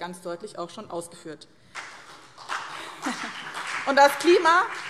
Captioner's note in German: Beifall BÜNDNIS 90/DIE GRÜNEN und CDU